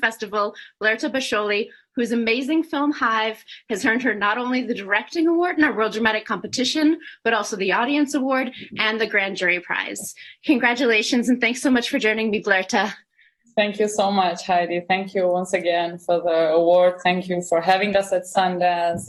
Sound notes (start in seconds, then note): none